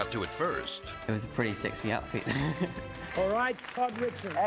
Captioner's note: laughing